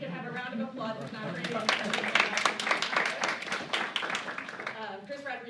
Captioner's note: applause